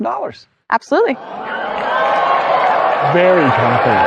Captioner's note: audience applauding